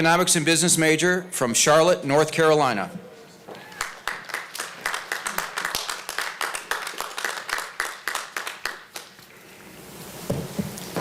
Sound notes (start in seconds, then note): 3.6 applause